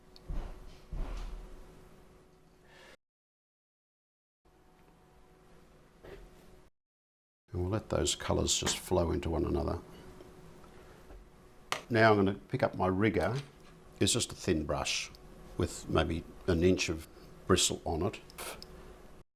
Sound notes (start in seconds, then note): 9.7 silence